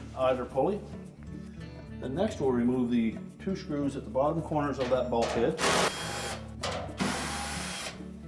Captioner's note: drilling sound